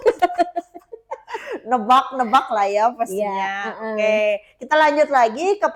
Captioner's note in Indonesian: tertawa